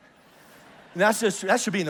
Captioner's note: congregation laughs